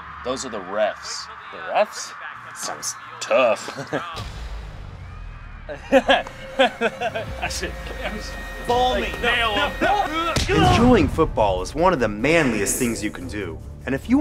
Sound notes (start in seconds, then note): 3.4 laugh